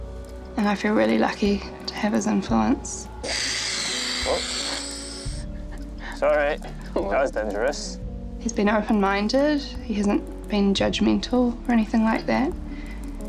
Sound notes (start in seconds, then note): 3.2 can hisses; 6.0 laughs softly